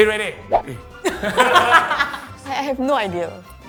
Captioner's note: laughing